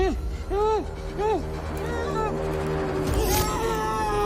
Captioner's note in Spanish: Quejidos ahogados; Grito ahogado